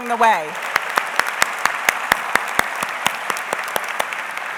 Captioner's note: audience applauds